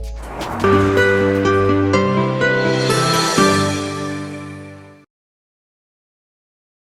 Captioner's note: globe swishing; vibrant music